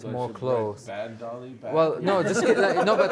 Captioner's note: laughter